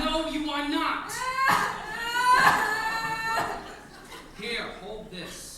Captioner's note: Ermengarde sobs